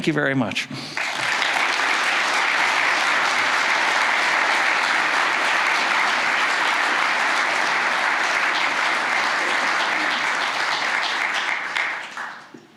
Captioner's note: applause